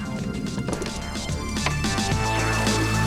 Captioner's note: door closes; upbeat music